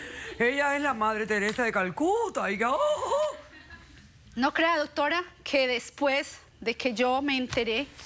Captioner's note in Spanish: risas